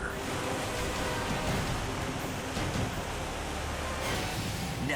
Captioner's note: dramatic music; waterfall rushing